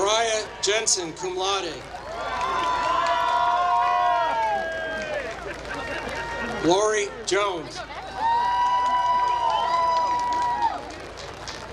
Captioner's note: applause